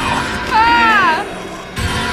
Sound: tense music; buzzer; tense music

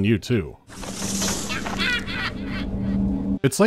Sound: deranged laughter

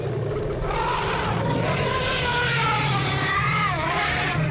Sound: elephant huffs; elephants roar

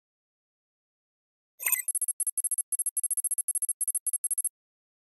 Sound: beep, code running

